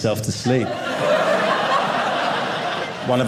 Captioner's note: audience laughing